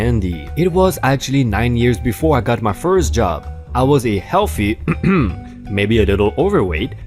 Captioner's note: cough